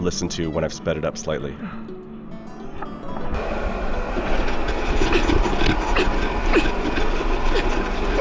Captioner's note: grunting